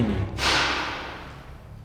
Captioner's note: sound of impact